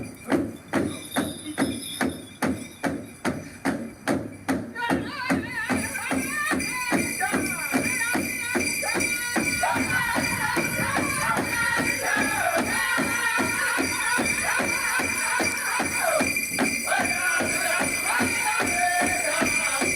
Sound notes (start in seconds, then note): 7.5 native american music plays; 7.5 speaks a native american language